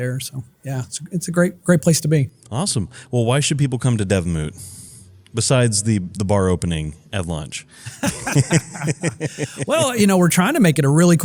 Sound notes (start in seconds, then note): 7.8 laugh